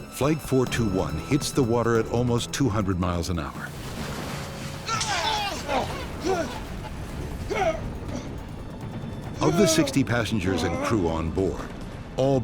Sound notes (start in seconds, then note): 0.2 voiceover; 3.6 plane splashing down; 4.3 flight crew grunting